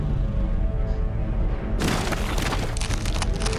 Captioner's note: thud sound